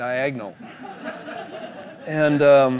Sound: laughter

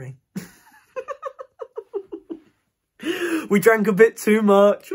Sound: giggles

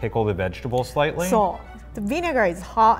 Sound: speaks in foreign language

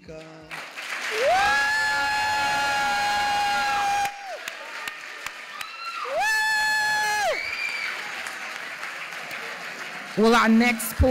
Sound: cheering

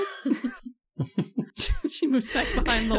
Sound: chuckles

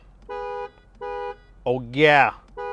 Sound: car horn blaring

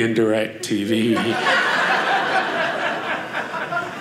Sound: audience laughing

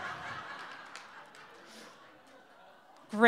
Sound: crowd laughs

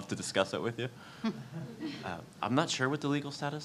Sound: audience laughs

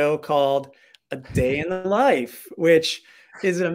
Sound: chuckling

